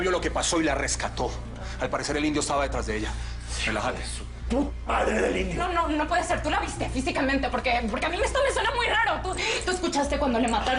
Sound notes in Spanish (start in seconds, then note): 8.1 Jadeo